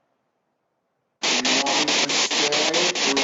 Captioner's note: static echoing